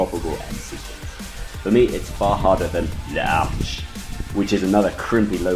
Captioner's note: pretentious French accent